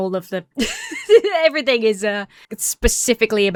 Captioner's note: laughs